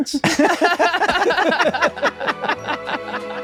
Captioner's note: everyone laughs